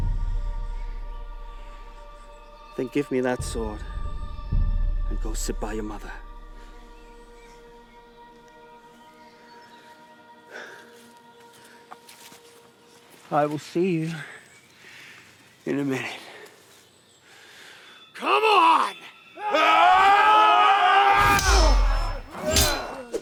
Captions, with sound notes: (gentle music) Then give me that sword and go sit by your mother. (gentle music) (birds chirping) (gentle music) I will see you in a minute. (birds chirping) Come on. (both shouting) (swords clanging)